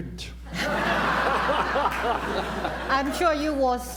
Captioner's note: laughter